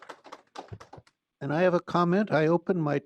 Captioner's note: applause